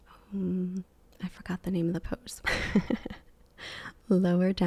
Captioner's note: giggles